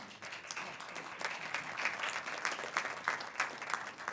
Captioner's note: applause